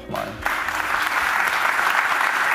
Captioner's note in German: Applaus